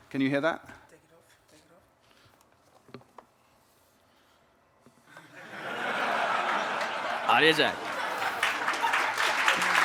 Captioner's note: applause